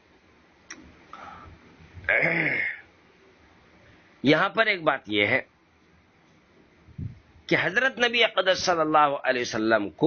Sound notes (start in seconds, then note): 2.0 clears throat